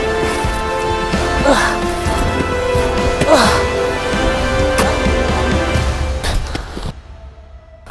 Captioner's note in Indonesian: Suara napas terengah-engah